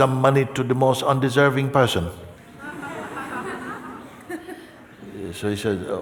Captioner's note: laughter